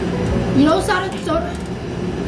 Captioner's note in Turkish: kekeliyor